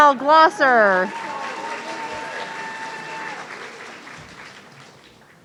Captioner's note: audience cheering